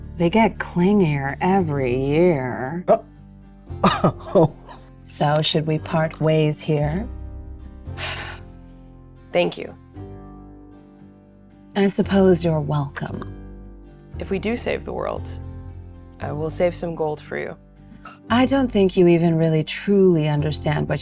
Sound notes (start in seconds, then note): 4.2 chortles